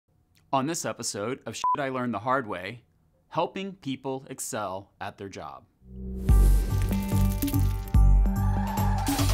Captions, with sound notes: - On this episode of (beep) I Learned The Hard Way, helping people excel at their job. (smooth music)